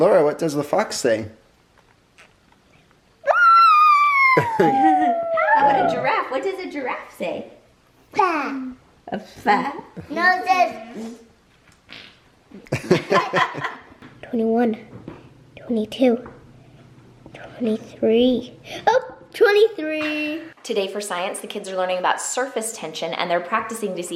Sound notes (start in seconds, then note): 3.2 howls; 12.6 laugh